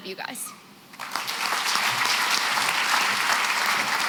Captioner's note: applause